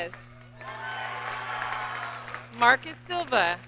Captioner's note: audience cheers and applauds